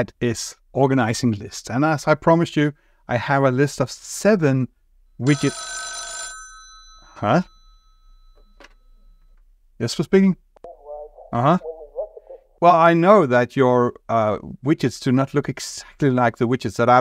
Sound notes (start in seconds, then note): 5.2 phone rings